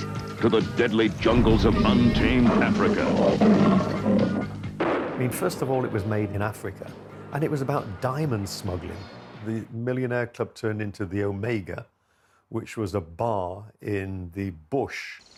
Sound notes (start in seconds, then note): 4.3 tiger roars; 5.1 gun blasts